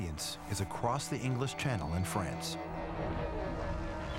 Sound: french dialogue

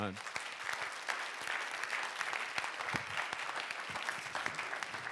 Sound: audience applauding

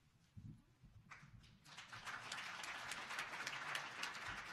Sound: applause

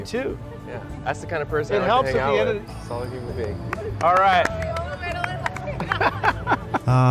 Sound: claps on the background

